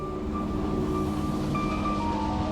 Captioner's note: vehicle hums